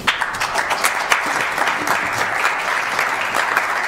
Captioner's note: applause